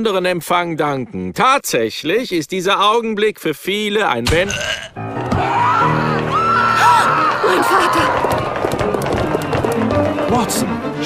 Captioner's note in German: Sterbesound